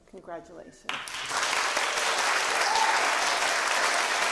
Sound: applause

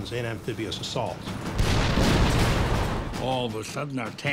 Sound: cannon shots exploding

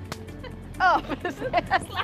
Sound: hands smack

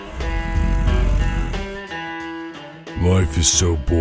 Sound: grunts

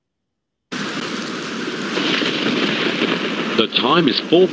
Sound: rain pattering

